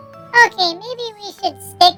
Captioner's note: laugh, relieved